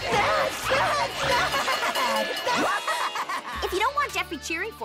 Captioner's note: crazed laughter